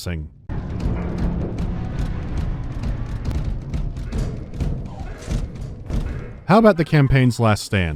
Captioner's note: muffled footsteps and an anemic alarm